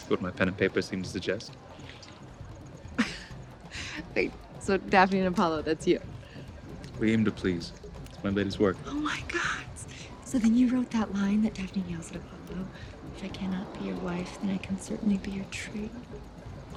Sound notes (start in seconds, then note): 2.9 laughs